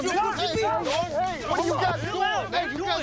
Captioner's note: men Arguing